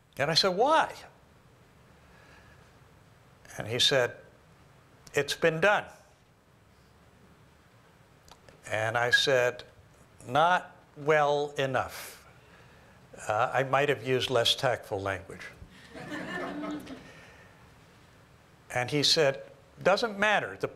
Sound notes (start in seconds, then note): 15.8 laughter